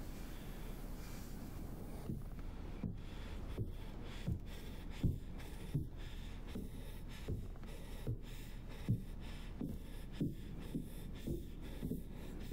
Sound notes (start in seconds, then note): 4.3 breathing heavily